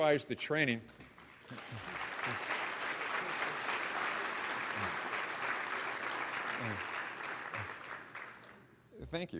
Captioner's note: applause